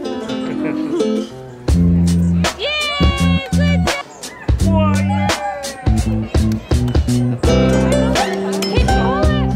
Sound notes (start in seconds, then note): 5.0 cheering